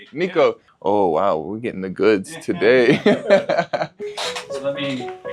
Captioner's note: laughs; bright music